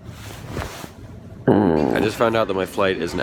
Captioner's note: groans